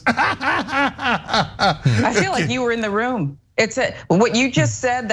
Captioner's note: laugh